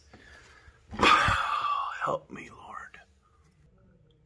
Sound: sigh

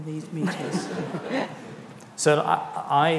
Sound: audience laughs

